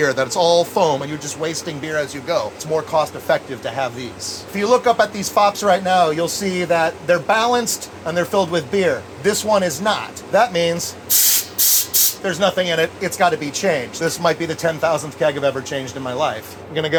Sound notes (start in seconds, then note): 11.0 gas hisses